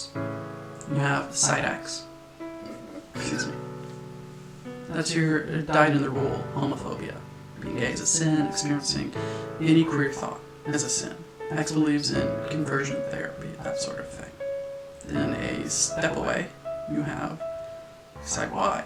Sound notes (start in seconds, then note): 3.1 burp